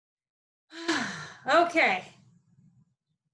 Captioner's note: sighs